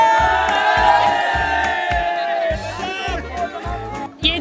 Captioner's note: cheering in unison